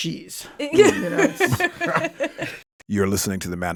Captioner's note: all laughing